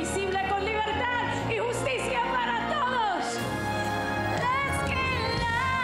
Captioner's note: foreign language